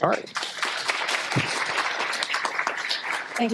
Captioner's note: applause